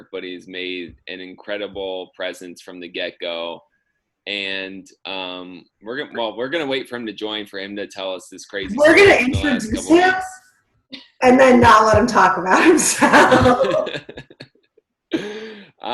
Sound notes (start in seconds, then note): 8.9 murmurs; 12.6 laughs